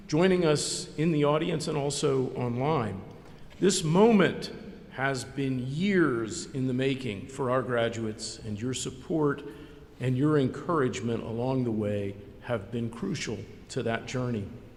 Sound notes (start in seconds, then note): none